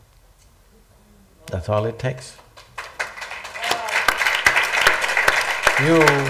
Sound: applause/Cheers

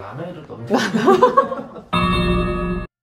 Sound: laughter

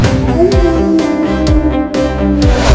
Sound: coyote howl

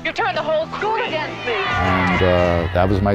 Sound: crowd cheers

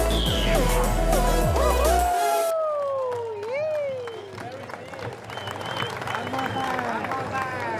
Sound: crowd cheering and applauding

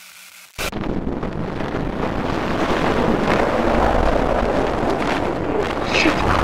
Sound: wind falling

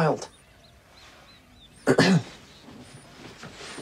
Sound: clears throat

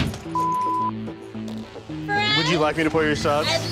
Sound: beep

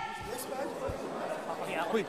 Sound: crowd indistinct chattering

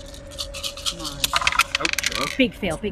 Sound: dice rattle

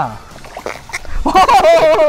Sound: fish making sound

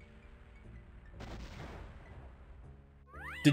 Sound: bam!

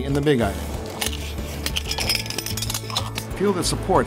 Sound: metal clinks

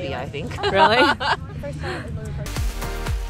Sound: laughter; upbeat music

